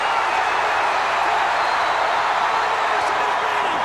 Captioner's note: crowd's roar drowns out commentary